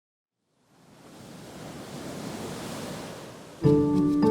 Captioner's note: surf crashing